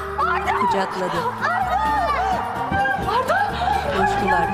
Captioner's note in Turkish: Sevinç çığlığı sesi